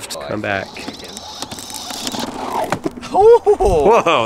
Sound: skateboard rolls

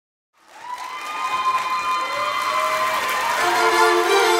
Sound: Gritos y aplausos

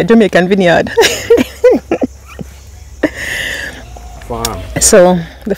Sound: laughing

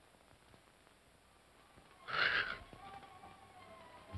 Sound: Scrooge snores; tense music

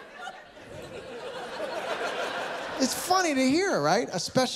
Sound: laughter

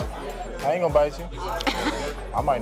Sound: laughs

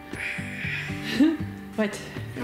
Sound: sighs

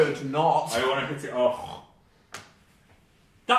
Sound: snorts

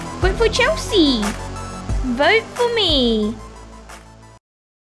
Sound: none

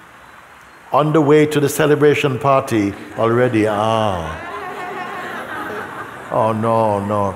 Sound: laughter

